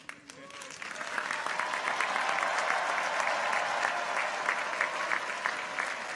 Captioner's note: audience applauds; people cheer